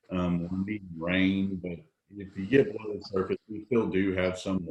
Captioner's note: audio is choppy